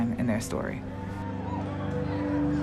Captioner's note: cheering